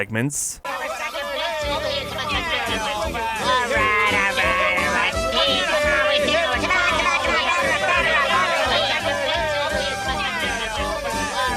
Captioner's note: various voices chattering